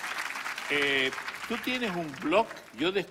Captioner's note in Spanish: Aplausos